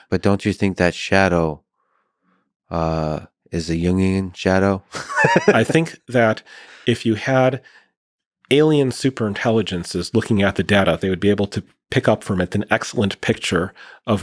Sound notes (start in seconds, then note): 5.0 Lex laughing